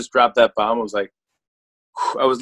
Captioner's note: breathes sharply